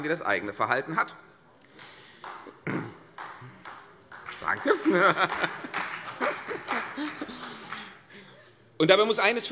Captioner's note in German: Beifall CDU